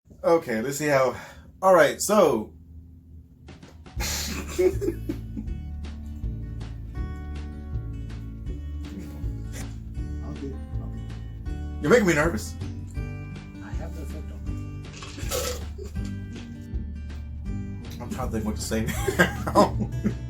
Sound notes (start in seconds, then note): 4.0 giggling like idiots; 14.8 slurping